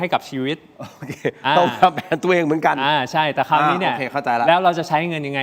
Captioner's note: laughter